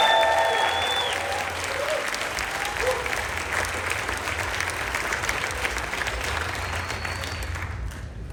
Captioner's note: cheering, Applause